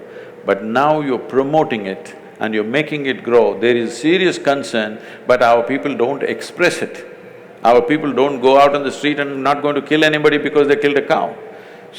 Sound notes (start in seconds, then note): none